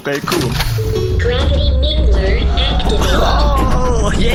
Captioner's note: humming